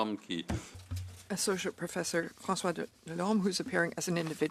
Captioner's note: speaking French